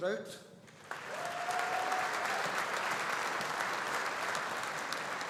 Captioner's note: audience applauding